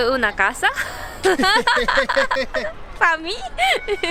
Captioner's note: laughs